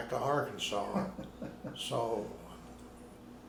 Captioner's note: laughing